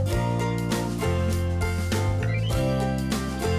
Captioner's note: seagull calling